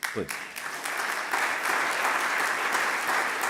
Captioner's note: applause